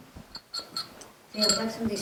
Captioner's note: glass clanking